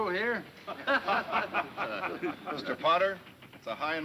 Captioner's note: men laughing